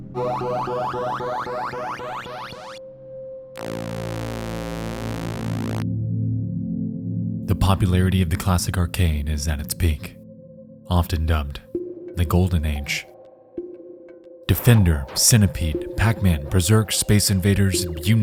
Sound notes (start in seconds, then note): 0.2 harsh tones; 3.4 pulsating sound